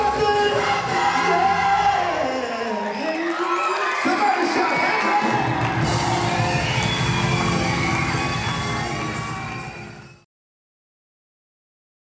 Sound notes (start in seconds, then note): 4.9 applause